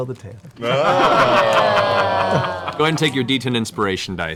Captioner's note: cheering